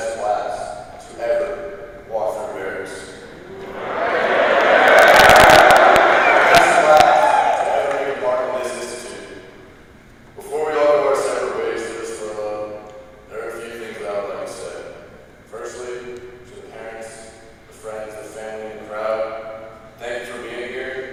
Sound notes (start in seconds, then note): 4.5 applause